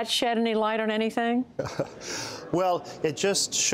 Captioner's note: laughter